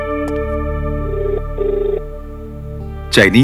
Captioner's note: Cell phone ringing